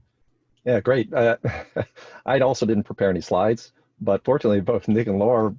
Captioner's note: laughs